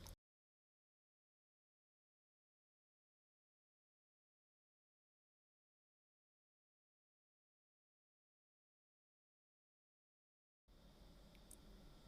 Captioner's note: silence